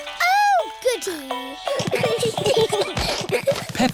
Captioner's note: all giggling